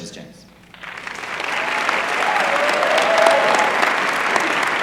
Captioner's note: applause